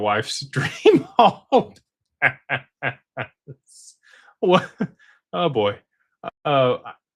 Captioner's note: laughter